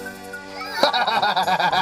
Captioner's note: laughing